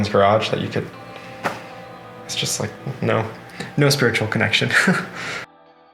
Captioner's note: laughing